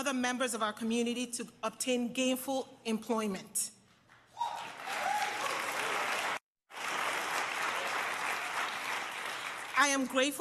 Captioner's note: applause